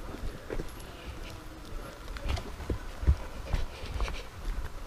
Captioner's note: people walking